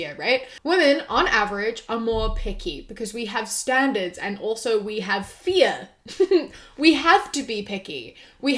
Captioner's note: giggles